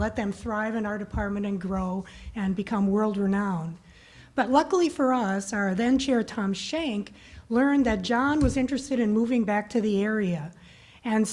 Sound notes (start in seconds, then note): none